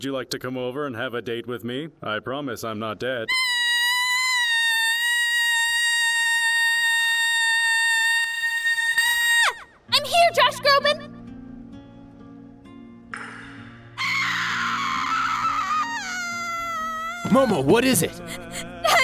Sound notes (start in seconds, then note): 3.3 screams of excitement; 14.0 screams of TERROR